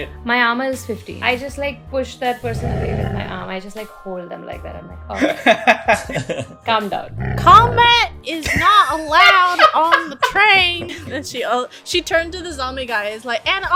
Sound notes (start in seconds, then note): 5.1 laughter; 10.5 laughter